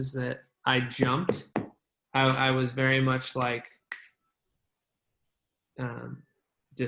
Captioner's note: clicking fingers